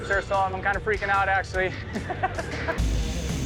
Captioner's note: laughs